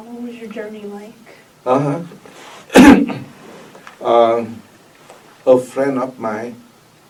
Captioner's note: clears throat